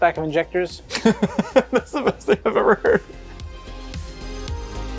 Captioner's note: laughing